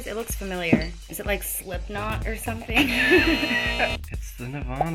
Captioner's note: laughs